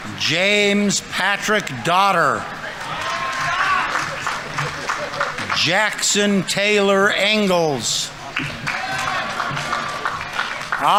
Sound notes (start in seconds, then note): 1.6 audience members cheering; 2.7 audience applauding; 8.2 audience applauding; 8.3 audience members cheering